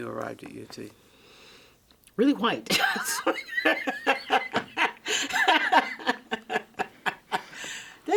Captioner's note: laughs